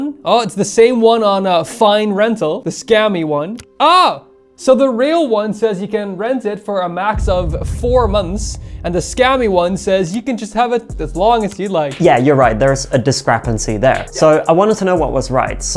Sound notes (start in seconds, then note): none